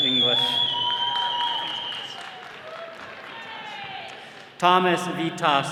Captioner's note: attendees cheering